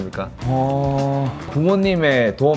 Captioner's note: big sigh